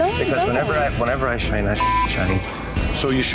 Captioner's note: beep